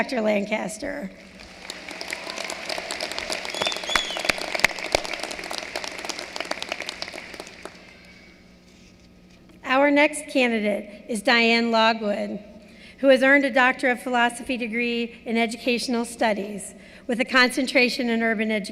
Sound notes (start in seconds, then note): 7.1 applause